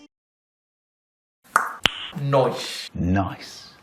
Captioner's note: mouth clicking